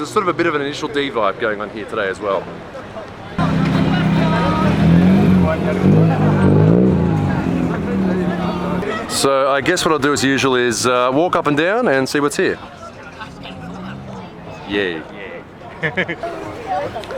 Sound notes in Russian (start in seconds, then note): 3.3 врум врум